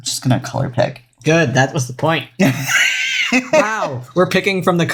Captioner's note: laughs